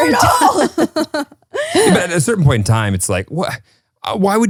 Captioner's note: laugh